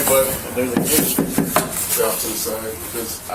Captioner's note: landlord knocks on door